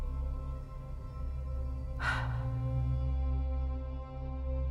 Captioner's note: sighing deeply